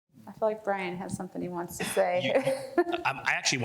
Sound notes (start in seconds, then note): 1.8 laughs